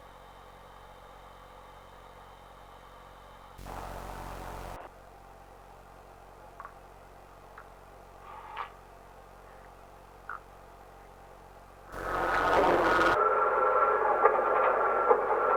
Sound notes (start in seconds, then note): 0.1 machinery humming; 3.6 Static; 11.9 Static; 12.0 machinery clanking